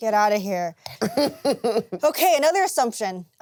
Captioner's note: laughs